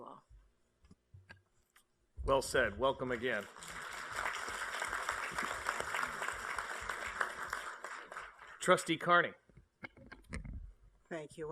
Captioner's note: applause